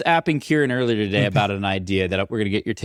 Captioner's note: chucking